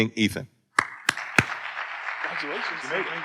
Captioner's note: audience applauding